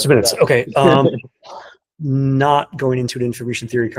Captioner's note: laughing